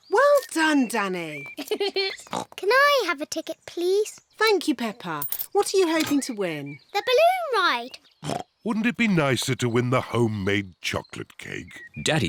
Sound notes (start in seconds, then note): 1.5 giggles; 2.3 oinks; 8.2 oinks